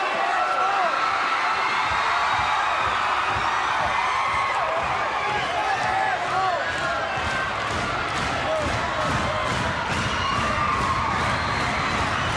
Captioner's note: crowd cheering